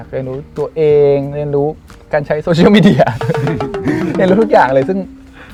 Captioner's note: laugh